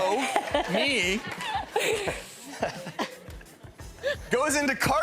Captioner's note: laughing